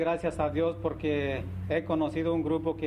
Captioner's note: speaking spanish